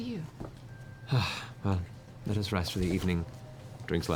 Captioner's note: sighs